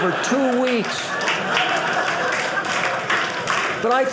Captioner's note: audience cheering